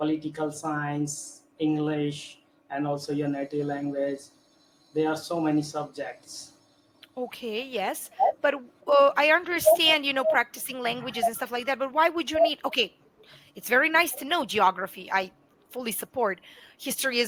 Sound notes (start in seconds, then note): 4.4 hindi